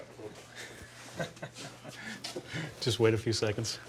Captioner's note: chuckles